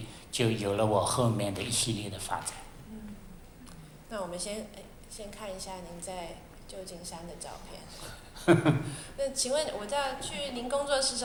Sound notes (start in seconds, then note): 4.6 Mandarin; 8.3 laughter; 9.6 Mandarin